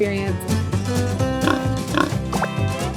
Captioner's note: pig oinking; upbeat music continues; graphics popping